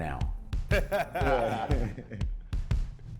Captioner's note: people laughing; upbeat percussive music